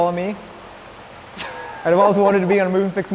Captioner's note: laughs